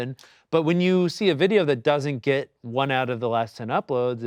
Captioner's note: none